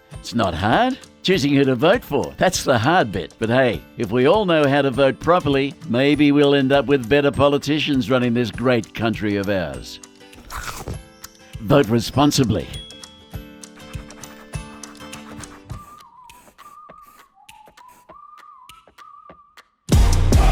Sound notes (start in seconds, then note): 10.0 uplifting instrumental music; 10.4 chomping; 13.3 uplifting instrumental music; 13.6 pen scribbling; 14.6 uplifting whistling; 15.8 uplifting instrumental music